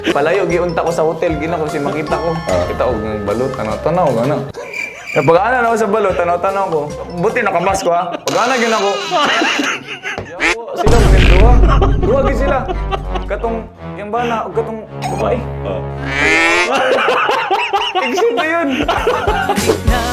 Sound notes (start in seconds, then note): 16.1 chuckles